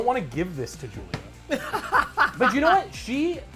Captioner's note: laughs